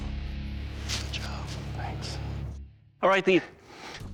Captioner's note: whispers